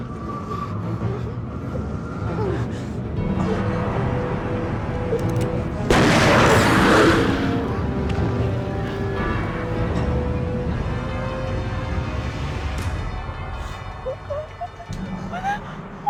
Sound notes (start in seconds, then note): 5.9 gunshot